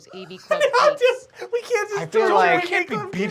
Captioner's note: laughs